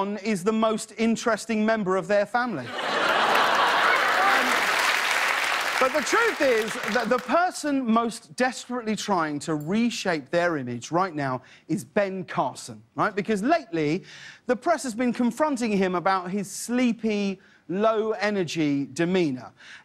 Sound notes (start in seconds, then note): 2.6 laughter; 3.0 applause